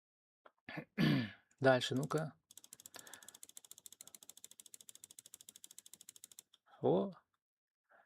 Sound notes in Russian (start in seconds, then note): 0.7 откашливается